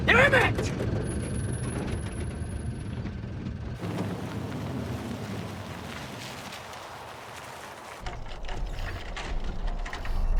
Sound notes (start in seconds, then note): 0.6 engine sputtering